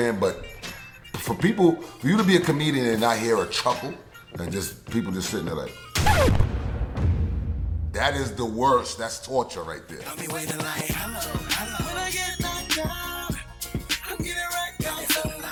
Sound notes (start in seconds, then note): 5.9 record scratch